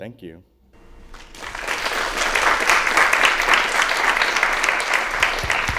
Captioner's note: applause